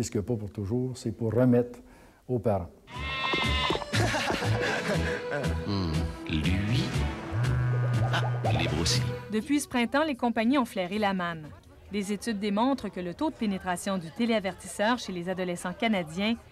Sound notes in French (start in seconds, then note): 3.3 rire